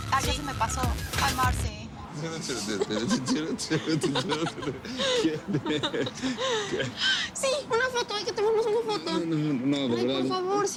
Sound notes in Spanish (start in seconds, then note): 2.6 Risas